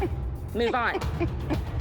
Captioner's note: laughs